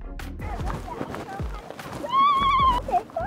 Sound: chill music; children chattering

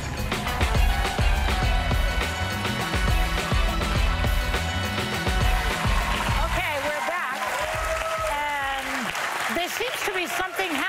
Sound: cheers and applause

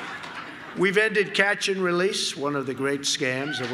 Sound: laughter

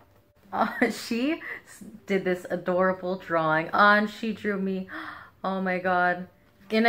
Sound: gasp

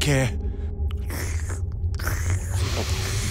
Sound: slurping

